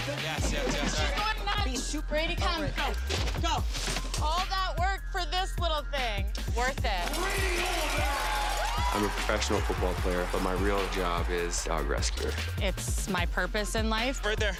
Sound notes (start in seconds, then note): 7.0 the crowd roars